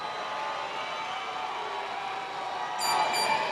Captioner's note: cheers and applause